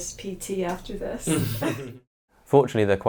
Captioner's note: laughing